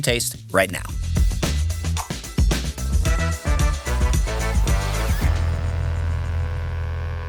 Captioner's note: bright energetic music; whoosh